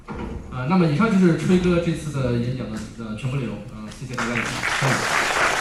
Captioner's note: applause